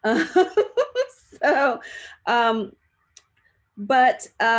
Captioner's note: laughs